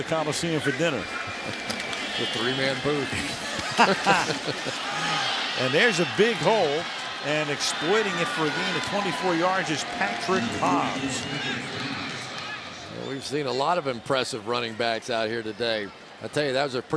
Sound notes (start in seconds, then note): 3.2 laughing